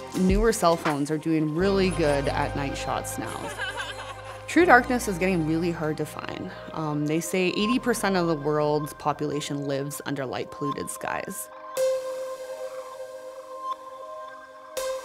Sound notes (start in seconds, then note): 3.4 both laughing; 11.7 gentle bright music